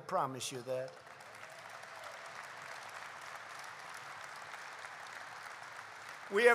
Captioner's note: applause